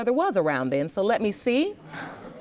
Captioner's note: scoffs